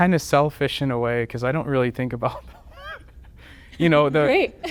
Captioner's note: laughter